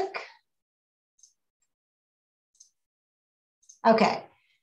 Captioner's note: computer mouse clicking